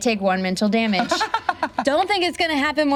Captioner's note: laughs